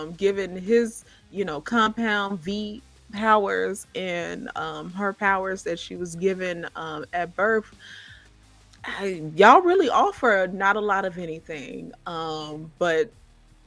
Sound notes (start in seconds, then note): none